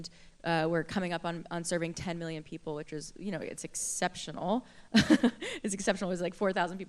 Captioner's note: laughter